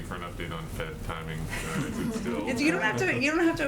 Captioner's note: laughter